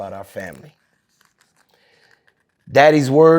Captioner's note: pages rustling